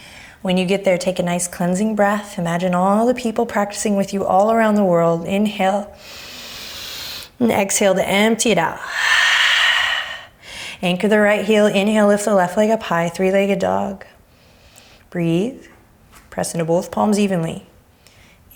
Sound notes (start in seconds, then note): 6.0 inhaling; 8.8 exhaling